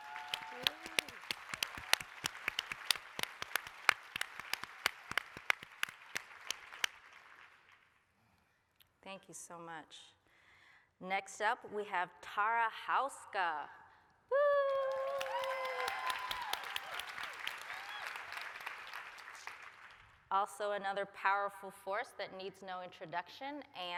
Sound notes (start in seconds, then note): 0.0 applause, cheering; 14.5 applause, cheering